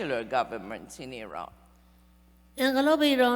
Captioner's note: speaking persian